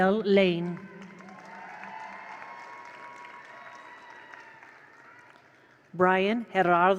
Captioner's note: attendees cheer; attendees applaud